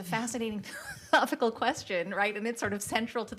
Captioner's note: laughter